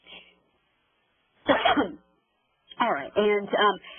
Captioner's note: coughs